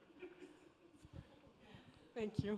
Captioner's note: attendee 4 laughing